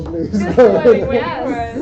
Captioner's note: laughter